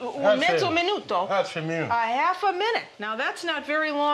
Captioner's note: speaking Italian